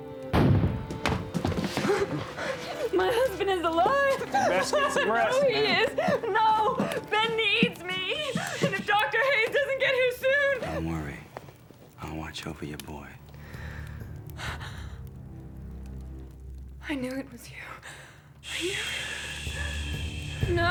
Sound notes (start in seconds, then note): 0.3 cannon fire; 6.4 sobbing